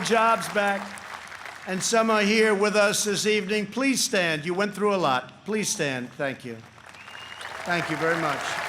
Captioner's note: applause